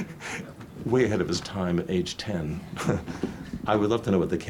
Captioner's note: laughs; laughs